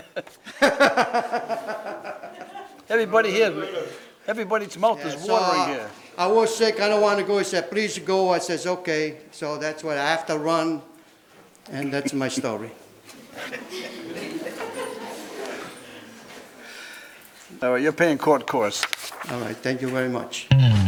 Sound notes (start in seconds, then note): 0.2 laughs; 13.5 everyone laughs; 20.5 bass guitar riff